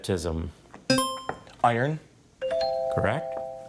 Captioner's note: scoreboard dings; buzzer chimes